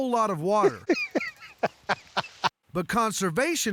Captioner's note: laughter